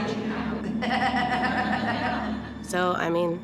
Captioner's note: laughter